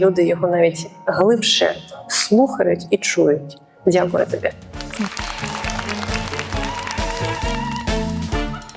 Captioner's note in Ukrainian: оплески